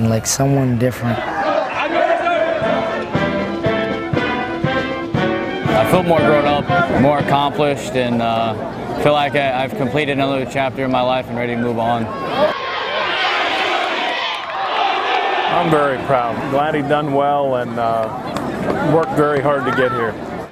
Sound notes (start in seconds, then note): 1.2 marines chanting; 13.3 crowd cheering off screen